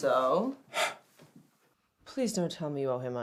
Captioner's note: Radovan sighs